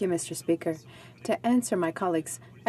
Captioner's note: speaking French